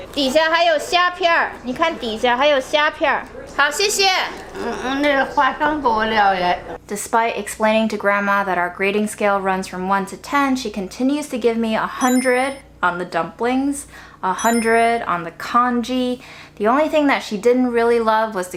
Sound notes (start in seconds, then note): 0.0 grandma speaking Chinese; 0.2 speaking Chinese; 4.8 grandma speaking Chinese; 14.4 chimes tinkling